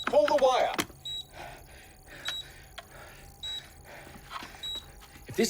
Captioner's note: panicked breaths